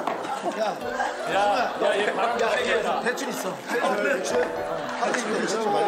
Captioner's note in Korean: 허헝헝